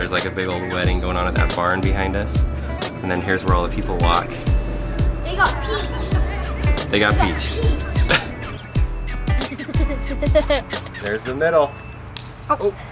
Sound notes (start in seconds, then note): 8.9 laughs